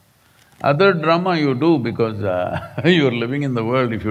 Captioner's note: laughs